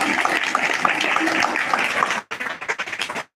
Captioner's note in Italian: Applauso